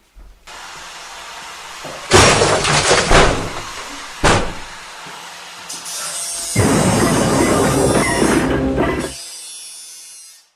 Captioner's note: loud noises and crashes continue